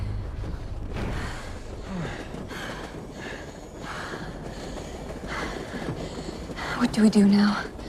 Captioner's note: heavy breathing, train noise